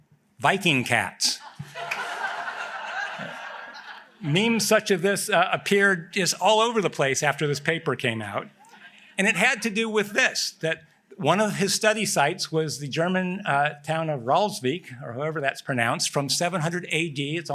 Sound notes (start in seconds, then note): 1.4 laughter